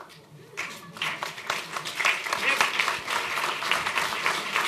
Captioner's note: applause